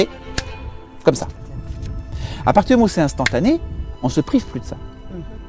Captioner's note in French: claquement de doigts